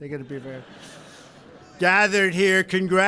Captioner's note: laughter